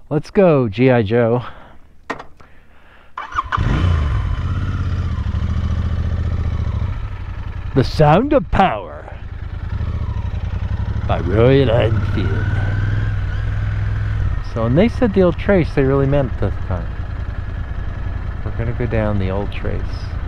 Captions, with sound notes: Let's go GI Joe. [engine start] The sound of power. By Royal Enfield. So when they said the old trace, they really meant it this time. We're gonna go down the Old Trace.